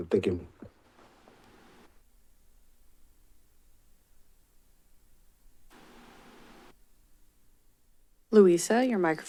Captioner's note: silence